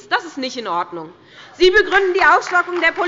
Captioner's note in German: Beifall bei der SPD